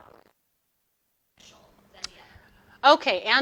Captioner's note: audio distorting